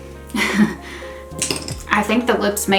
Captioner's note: chuckles